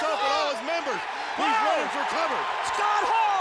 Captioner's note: audience cheers